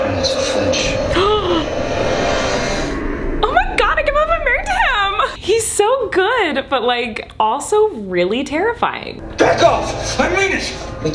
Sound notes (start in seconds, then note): 1.3 gasps